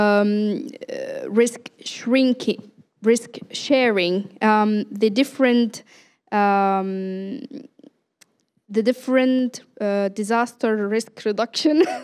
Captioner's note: laughter